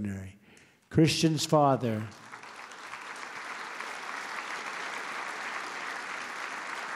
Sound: applause

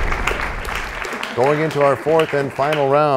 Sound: applause; crashing sound

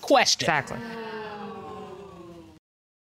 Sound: audience exclaims

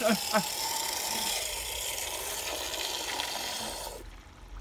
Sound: gurgling

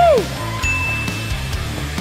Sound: ding; rock music

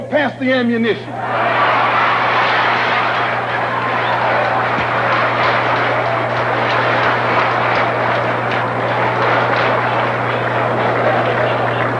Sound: applause

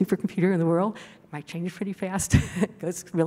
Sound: laughing

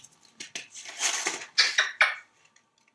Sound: kissing sound

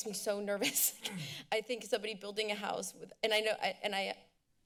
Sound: giggles

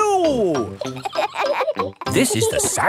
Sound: kids laughing

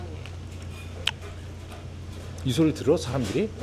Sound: smack Smack 👄

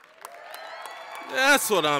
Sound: applause, cheering

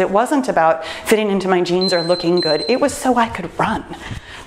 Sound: timer beeps

